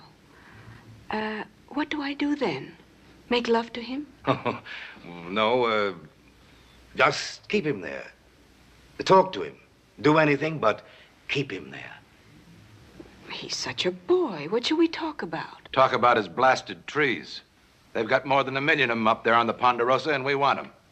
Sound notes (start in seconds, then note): 4.2 laughs